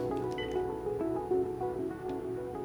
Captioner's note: beeps